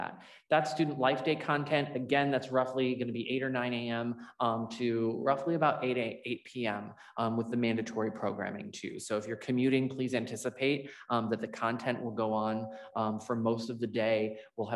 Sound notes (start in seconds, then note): none